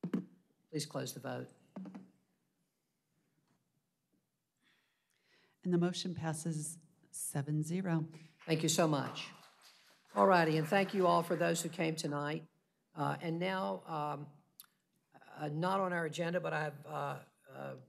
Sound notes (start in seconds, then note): 12.0 applause